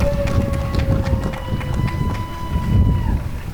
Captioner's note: applause and cheering